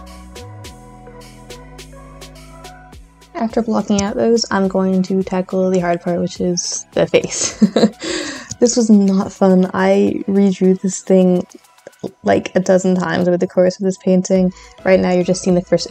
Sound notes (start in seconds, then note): 7.4 laughs